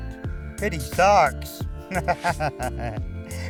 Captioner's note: laughs